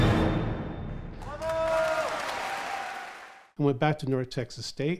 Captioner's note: audience clapping and cheering